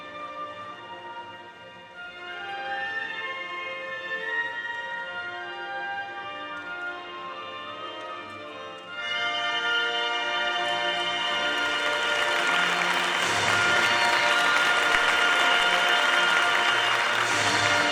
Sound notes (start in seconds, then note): 10.5 audience applauding